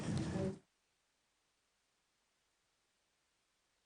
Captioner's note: applause